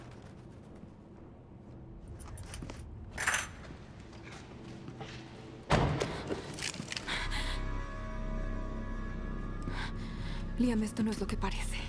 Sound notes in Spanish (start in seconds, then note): 6.1 respiración pesada